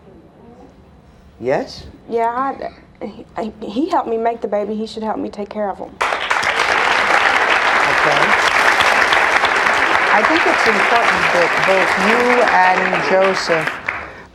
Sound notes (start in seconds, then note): 6.0 audience applauds